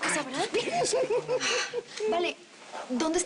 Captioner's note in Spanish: Risas